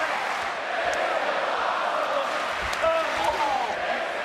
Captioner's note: crowd cheering